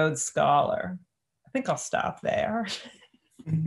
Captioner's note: chuckles